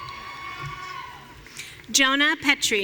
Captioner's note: audience cheering